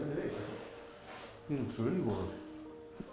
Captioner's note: mummers in agreement